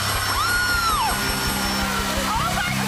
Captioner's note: bell dinging